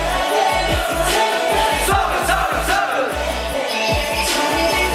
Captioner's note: AROHA: Whisper / So-geun x3